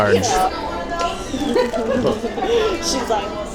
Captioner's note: giggles in the background